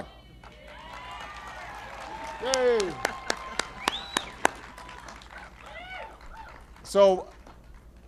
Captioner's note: applause